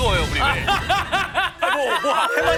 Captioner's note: exploding